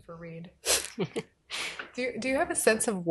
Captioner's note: chuckling